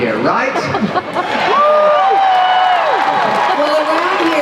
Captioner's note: cheers